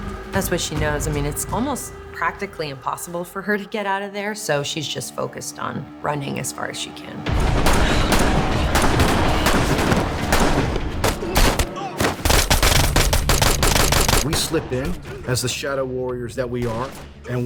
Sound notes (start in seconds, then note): 7.3 gunshots firing